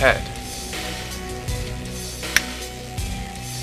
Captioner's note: finger snap